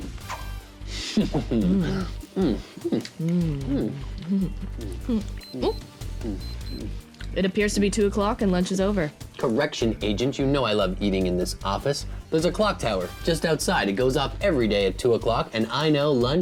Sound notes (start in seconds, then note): 1.0 chuckling; 6.2 beeping